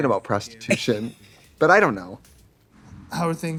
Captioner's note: Katya laughs